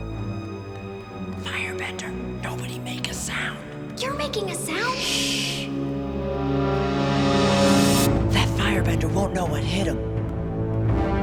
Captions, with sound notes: [whispering] Firebender. Nobody make a sound. You're making a sound. Shh. That Firebender won't know what hit him.